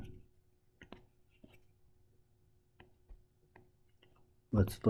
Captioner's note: tapping Sounds